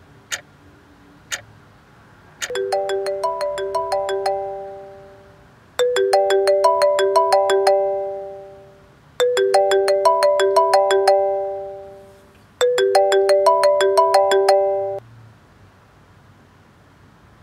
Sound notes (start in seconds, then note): 0.1 clock Ticks; 2.5 phone ringing